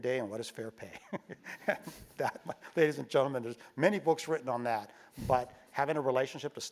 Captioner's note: laugh